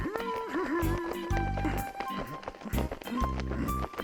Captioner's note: זמזום